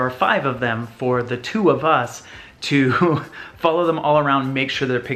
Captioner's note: laughs